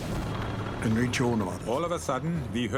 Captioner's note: speaking in foreign language